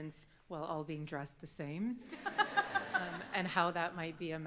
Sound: all laughing

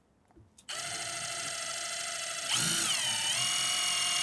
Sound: drill whirs

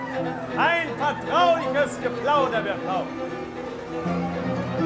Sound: confidential chats grow loud

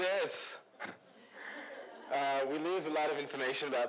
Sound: laughter

